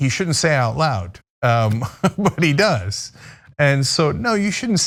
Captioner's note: laugh